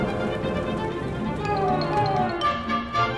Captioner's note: people chattering